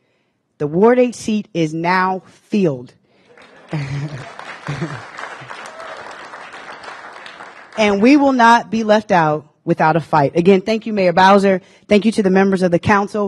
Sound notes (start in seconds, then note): 3.2 applause